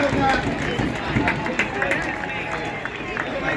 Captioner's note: applause